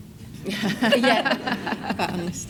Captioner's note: all laugh